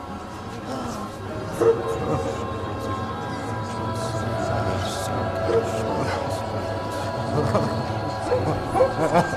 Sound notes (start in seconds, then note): 2.9 people murmuring